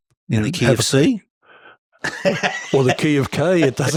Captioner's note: laughing